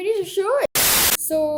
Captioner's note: TV static